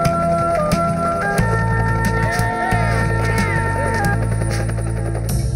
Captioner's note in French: Acclamations